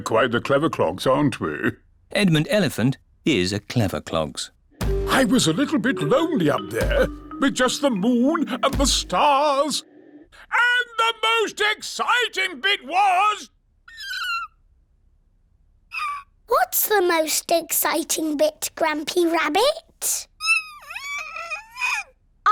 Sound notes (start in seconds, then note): 13.9 squeak!; 20.7 squeaks